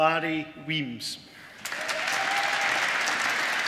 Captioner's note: applause